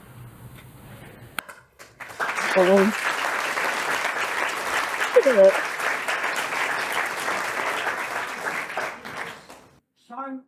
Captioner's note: applause